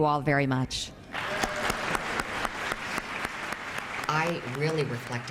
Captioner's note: congress members applaud